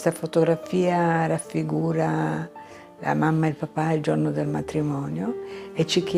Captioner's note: speaking in foreign language